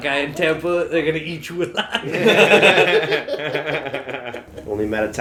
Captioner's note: laughter